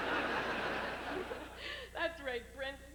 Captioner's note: exhausted giggle